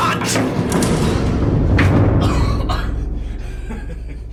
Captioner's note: coughing